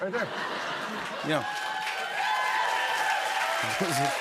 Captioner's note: cheers and applause